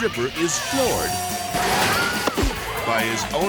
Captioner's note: person thuds; table cracks